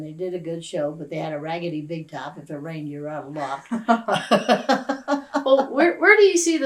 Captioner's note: laughter